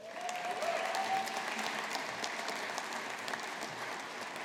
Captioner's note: audience applauding